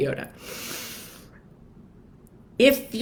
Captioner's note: breathes deeply